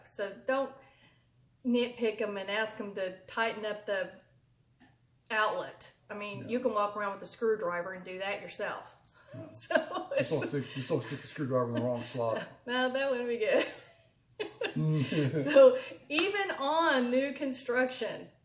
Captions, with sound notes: so don't nitpick 'em and ask 'em to tighten up the outlet. I mean, you could walk around with a screwdriver and do that yourself. So it's... (laughs) - You sorted the screwdriver in the wrong slot. - No, that wouldn't be good. (laughs) So even on new construction.